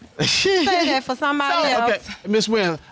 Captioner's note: laughs